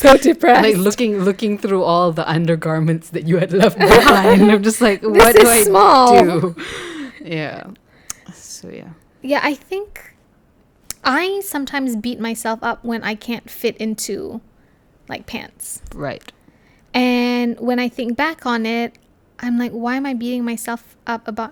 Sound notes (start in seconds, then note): 6.5 laugh